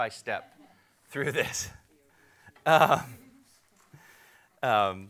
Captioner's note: laughs